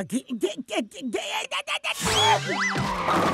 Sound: sneezing

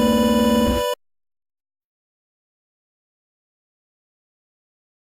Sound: silence

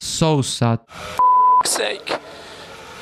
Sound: Sebastian Vettel Radio

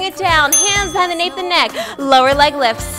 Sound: timer dings

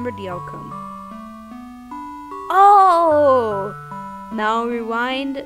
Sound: none

